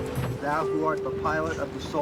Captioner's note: background talking